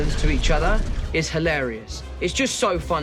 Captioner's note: none